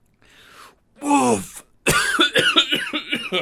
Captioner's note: coughs